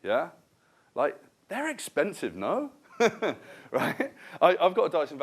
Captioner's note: laughter